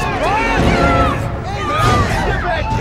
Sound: crowd ambience

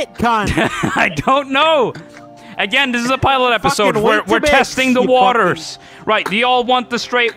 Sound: laughing

